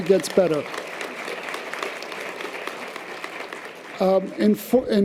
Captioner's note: audience applause